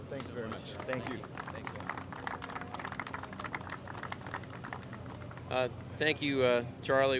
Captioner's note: applause